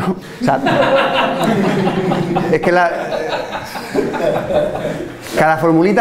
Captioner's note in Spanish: risas